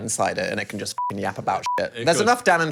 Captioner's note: beep